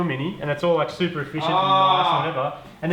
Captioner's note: groans with pleasure?